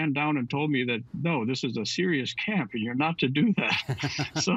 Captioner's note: laughter